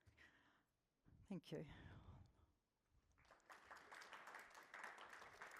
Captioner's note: audience applauding